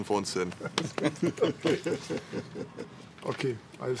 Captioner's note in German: Alle lachen